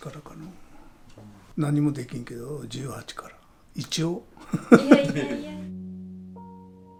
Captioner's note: he said sarcastically